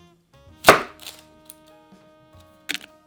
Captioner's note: knife cutting